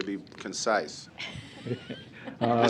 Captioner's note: laughter